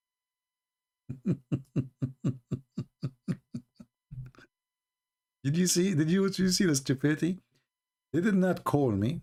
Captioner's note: Ketawa